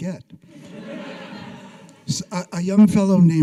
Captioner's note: audience laughing